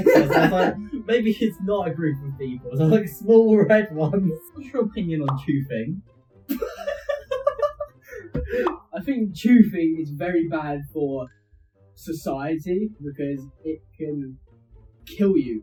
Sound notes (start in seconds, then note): 6.5 laughing